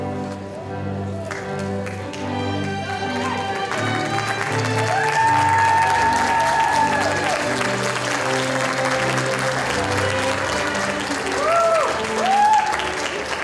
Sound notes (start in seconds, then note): 1.2 applause